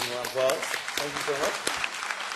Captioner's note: applause